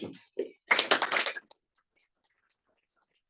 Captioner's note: audience applauding